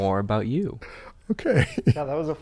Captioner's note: chuckles